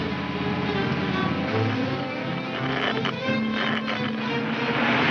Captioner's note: radio crackles